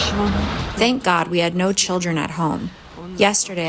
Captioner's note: through translator